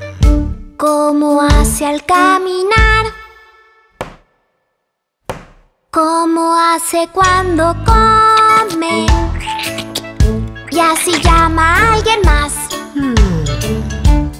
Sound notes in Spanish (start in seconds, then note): 5.3 Sonido de pasos; 8.3 Sonido de morder